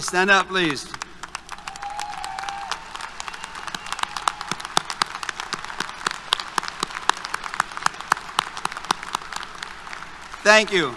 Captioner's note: applause, Cheers